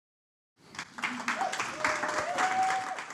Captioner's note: audience applauding